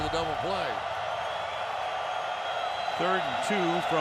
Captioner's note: cheering